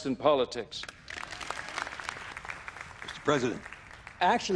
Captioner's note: audience clapping